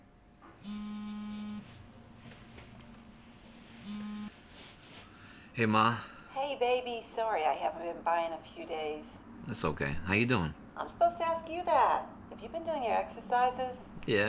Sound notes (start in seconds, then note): 0.6 phone rings